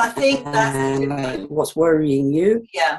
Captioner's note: audio skips 0:08:36